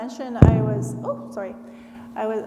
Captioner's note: mic thuds